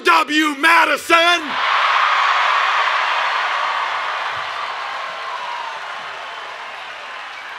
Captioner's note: cheering and Applause